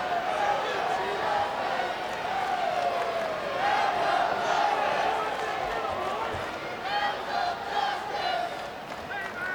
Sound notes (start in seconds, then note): 4.3 audience chanting and clapping